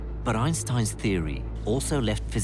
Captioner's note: voiceover